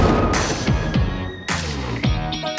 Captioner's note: thunder and lightning cracking; eerie upbeat music